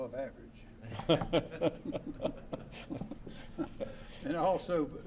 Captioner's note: laughter